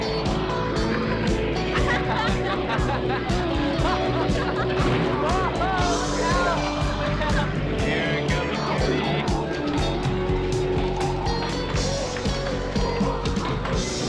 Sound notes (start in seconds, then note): 2.6 laughing loudly; 9.9 upbeat music